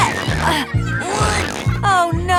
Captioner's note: grunting